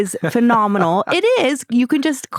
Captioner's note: laughter